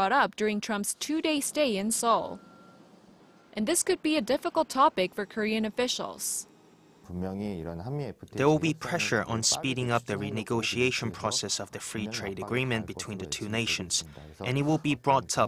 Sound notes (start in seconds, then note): 6.6 Korean